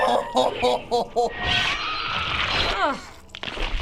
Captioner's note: in game: agonized cry; laughing in disgust